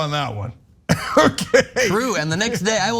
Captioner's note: laugh